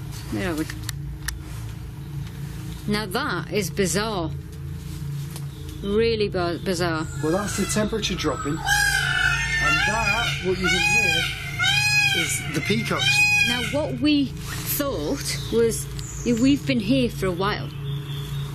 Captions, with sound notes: No. Now, that is bizarre. Really bizarre. - Well, that's the temperature dropping. (peacocks squawking) And that, what you hear, is the peacocks. - Now what we thought was, we've been here for awhile.